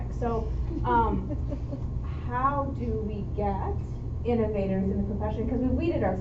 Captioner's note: chuckle